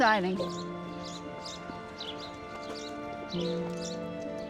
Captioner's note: birds chirping; soft dramatic music